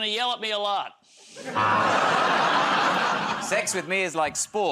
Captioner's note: laughter, buzzer